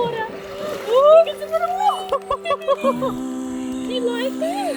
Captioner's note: women laughing